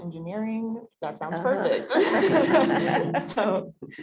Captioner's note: laughter